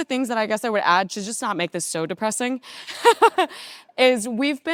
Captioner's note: laughing